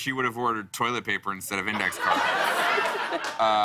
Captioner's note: laughter